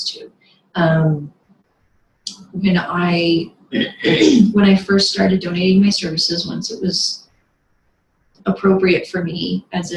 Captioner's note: clears throat